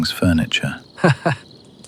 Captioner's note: laughs